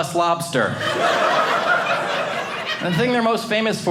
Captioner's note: audience laughing